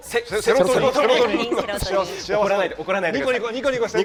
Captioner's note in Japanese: 笑い